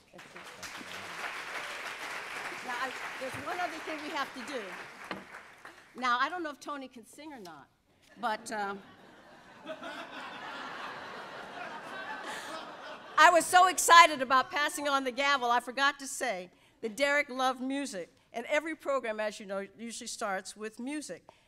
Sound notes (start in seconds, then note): 0.0 audience applauds; 8.6 audience laughs